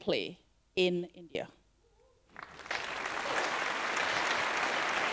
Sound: applause

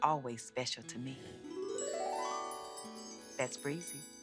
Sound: breezy chiming

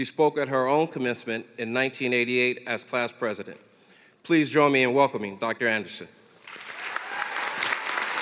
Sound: applause

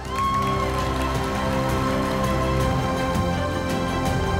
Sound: audience applauding; stately music

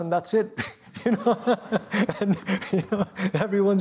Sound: laughter

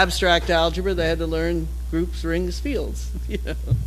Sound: laugh

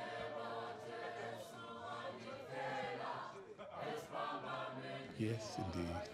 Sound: indistinct conversations

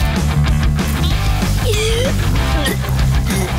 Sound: gagging

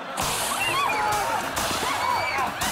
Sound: screaming

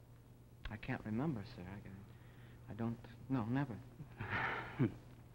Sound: D'Arnault chuckles

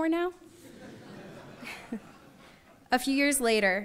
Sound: audience laughs; chuckles

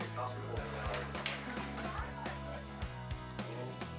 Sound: snapping

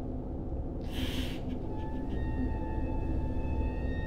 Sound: Ian sobs

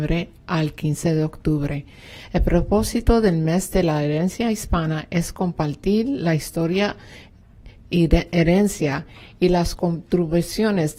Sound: speaking spanish

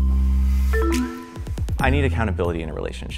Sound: techno music continues; techno bleeping

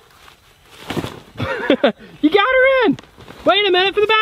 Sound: laughs

